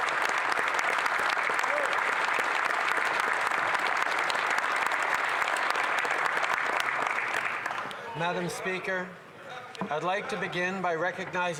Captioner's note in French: applaudissements